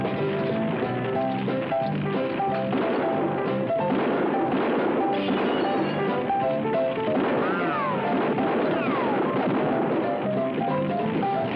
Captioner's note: gun shots